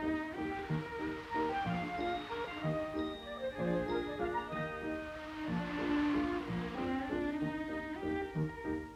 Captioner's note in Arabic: موسيقى غريبة; هبوب الرياح; موسيقى غريبة